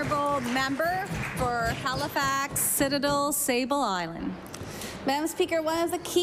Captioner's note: applause